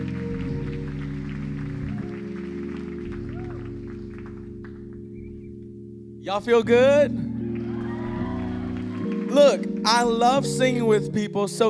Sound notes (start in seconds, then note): 7.3 audience cheering and applauding